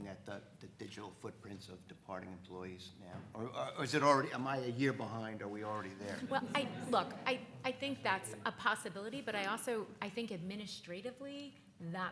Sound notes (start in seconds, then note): 6.1 crowd laughing